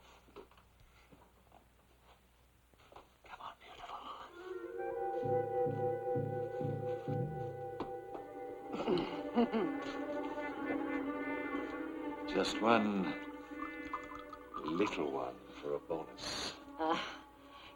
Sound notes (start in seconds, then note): 4.5 eerie music; 8.7 Dolly laughing